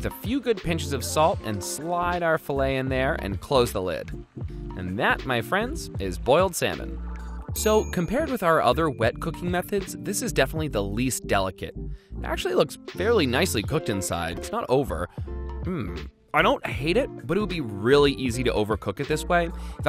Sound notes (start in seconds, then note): 7.5 bell dings